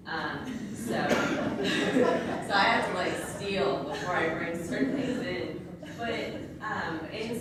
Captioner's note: laughs